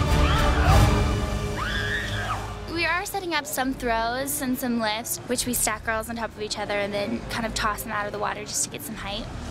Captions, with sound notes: [mermaids shrieking] We are setting up some throws and some lifts, which we stack girls on top of each other and then kind of toss them out of the water, just to get some height.